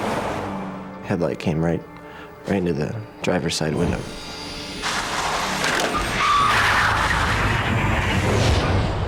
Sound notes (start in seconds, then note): 4.8 tires screeching